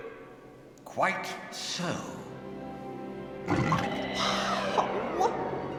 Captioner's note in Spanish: gruñidos y zumbidos